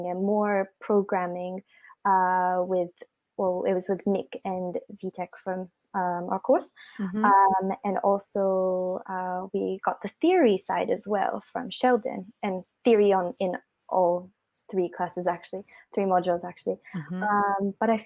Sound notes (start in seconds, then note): none